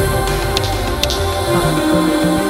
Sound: snaps finger

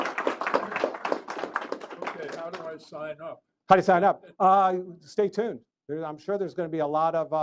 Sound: applause

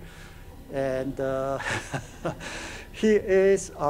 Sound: chuckles

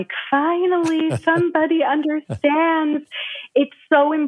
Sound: laughs

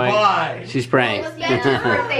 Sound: laughs

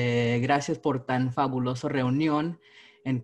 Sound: speaking spanish

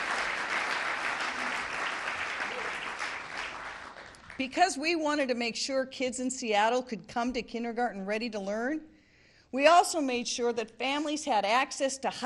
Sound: applause

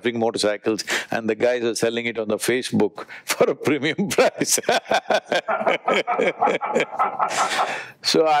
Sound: both laugh

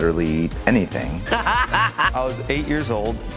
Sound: laughing

